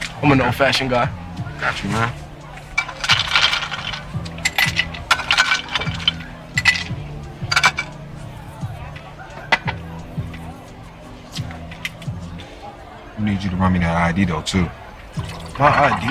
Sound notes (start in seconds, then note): 3.2 ice rattling